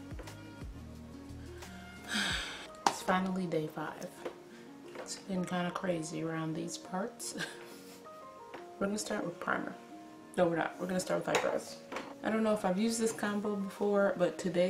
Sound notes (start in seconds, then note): 2.0 sighs; 7.3 laughs